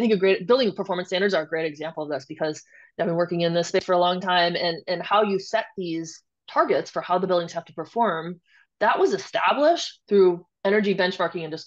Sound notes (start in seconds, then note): none